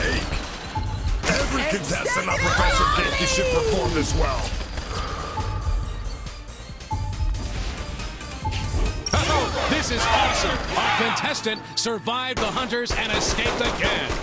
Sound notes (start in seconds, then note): 6.8 low health warning